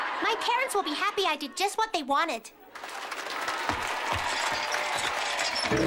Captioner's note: applause